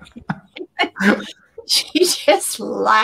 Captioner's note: laughter